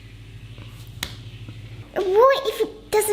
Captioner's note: hand slaps